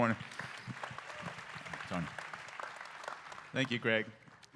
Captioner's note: applause